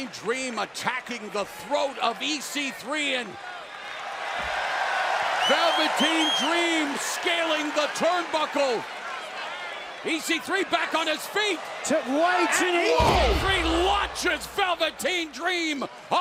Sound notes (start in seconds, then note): 5.0 cheers and applause